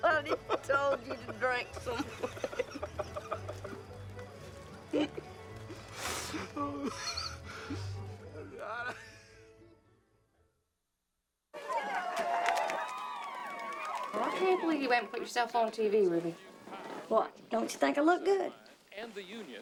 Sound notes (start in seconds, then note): 11.5 women cheering on TV